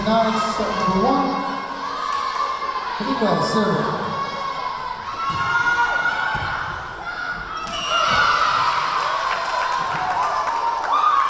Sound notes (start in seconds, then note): 2.9 yelling; 6.4 yelling; 7.7 whistle blowing; 8.6 cheering